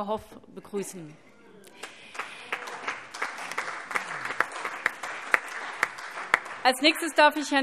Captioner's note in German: Beifall